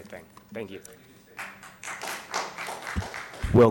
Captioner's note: applause